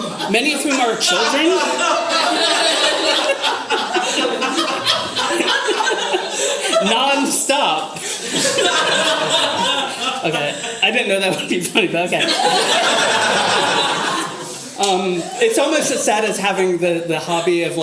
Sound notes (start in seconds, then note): 6.1 audience laughter; 12.2 more laughter